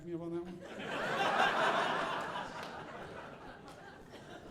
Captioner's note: audience laughing